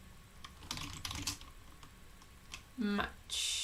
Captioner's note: keyboard clicking